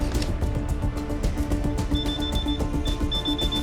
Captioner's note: beeping